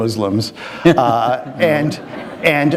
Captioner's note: laughter